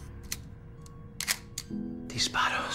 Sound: shutter sounds

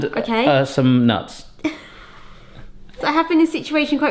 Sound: giggles

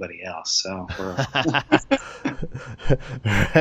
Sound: laughter

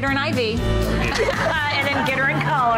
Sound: laughing

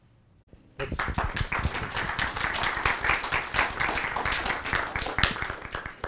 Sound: applause

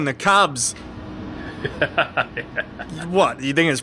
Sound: laughing

